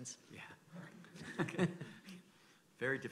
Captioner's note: chuckling